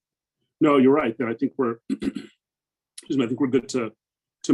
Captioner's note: clears throat